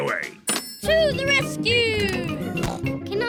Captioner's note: snorts